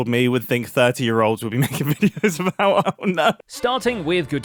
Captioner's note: laughs